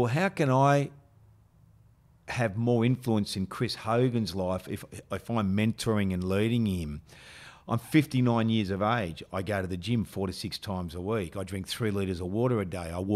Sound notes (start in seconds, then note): none